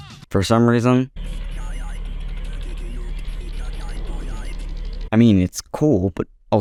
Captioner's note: S.A.M. vocalizes against the Xbox ambience